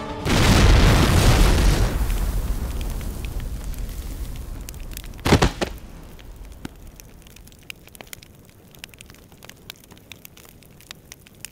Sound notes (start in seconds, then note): 0.2 explosion sound; 5.2 thuds on ground